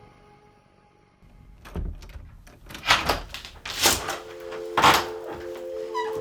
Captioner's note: door unlocking